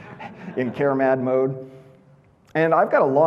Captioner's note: audience laughing